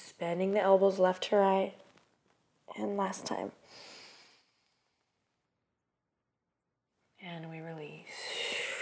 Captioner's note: exhale